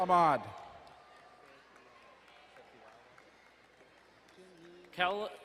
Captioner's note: distant cheering